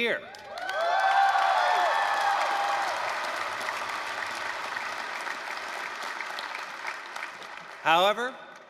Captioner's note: applause, cheering